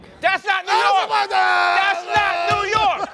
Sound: yells gibberish

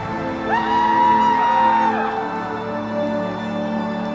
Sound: gentle music; audience cheers

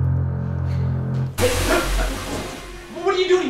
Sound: Ciez shouting

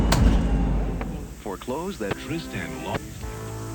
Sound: TV sounds

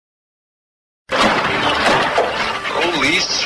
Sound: car doors slam shut

